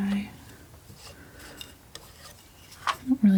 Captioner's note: tapping